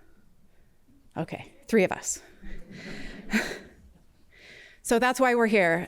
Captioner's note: laughter